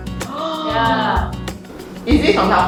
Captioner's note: gasps in Taobao